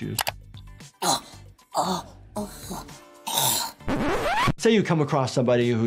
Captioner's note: IShowSpeed gulping for air